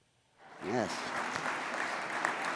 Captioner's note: audience applauds